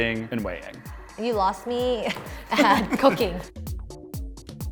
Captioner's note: chuckling